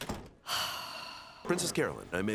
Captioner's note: sighing